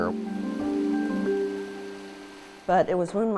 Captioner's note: water splashing